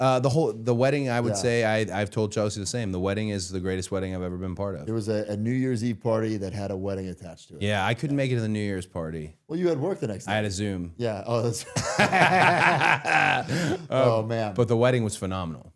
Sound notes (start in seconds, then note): 11.6 both laughing